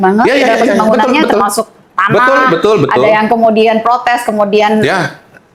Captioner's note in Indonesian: tertawa